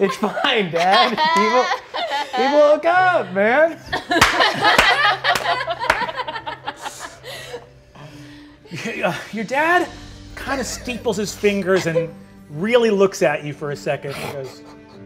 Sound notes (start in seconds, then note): 3.7 all laughing; 4.1 applauding